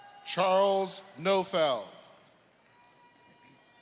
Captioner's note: applause